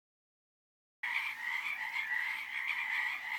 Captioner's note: frogs ribbiting; insects chittering